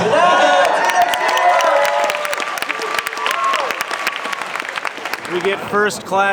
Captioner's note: crowd cheering and clapping